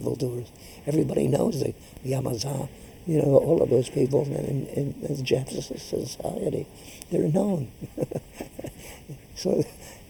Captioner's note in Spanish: laughs